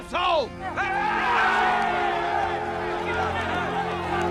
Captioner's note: men arguing